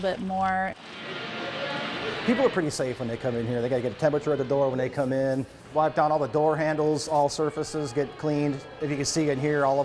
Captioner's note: nats of customers